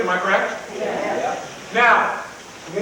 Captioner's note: crowd mumbles in agreement